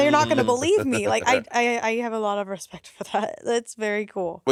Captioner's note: Monét laughing